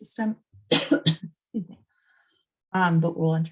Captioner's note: coughs